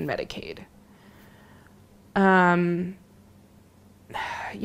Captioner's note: big sigh